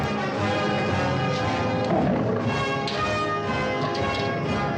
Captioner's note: lions growling